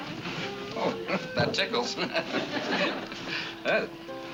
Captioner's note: chuckles